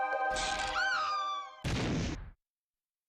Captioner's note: woman screams